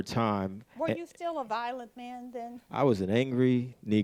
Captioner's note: bell